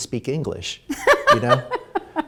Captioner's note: laughter